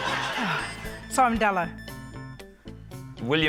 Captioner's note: laughter; sighs